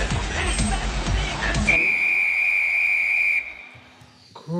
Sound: whistle blows

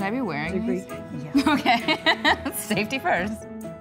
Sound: laughter

